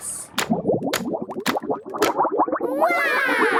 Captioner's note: bubbling